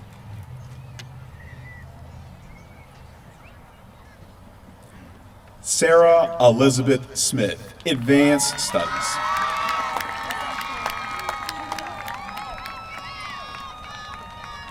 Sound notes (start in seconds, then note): 7.8 applause